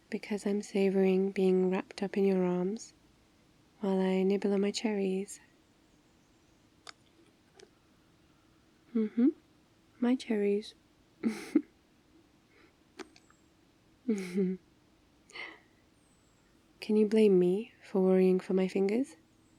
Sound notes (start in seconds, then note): 11.2 laughs; 12.9 giggles.. nibbling all round; 14.1 laughs